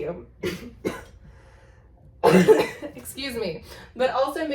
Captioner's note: coughs